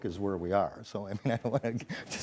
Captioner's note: laughs and mumbles